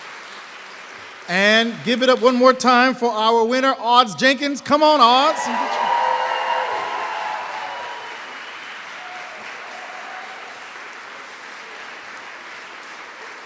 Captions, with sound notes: And give it up one more time for our winner Auds Jenkins. Come on, Auds. [APPLAUSE]